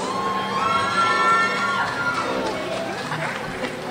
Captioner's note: crowd cheers